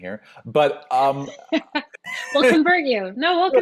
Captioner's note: laughs